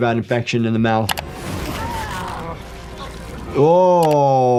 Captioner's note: screen clicking